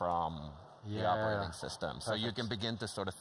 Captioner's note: laughs